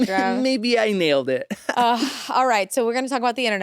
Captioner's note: laughs